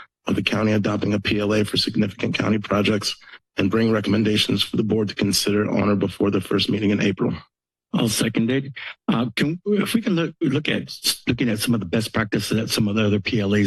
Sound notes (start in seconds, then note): none